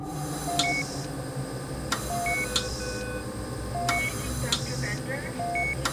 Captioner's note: machine beeps